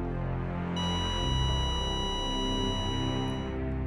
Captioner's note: steady beep